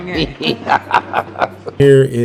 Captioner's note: laughing